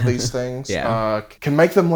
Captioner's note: laughs